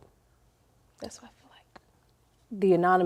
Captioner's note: whispers